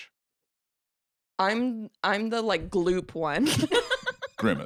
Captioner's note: laughs